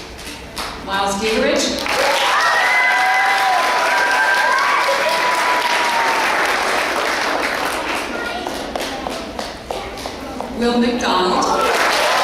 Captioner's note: clapping